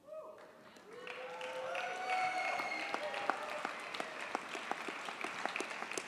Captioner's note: audience cheers and applauds